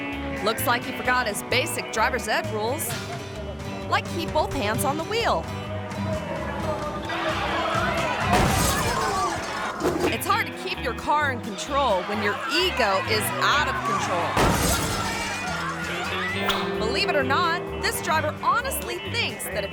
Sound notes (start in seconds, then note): 5.7 tires squealing; 7.4 car crashes; 14.3 car crashes